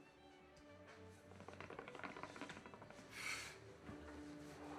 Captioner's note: hookah bubbles; exhales sharply